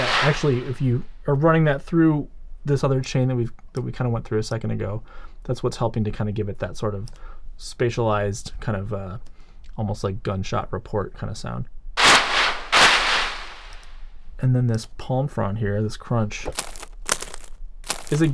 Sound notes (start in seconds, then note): 12.0 gun firing; 17.8 palm frond crunching